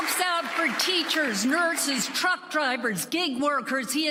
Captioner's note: applause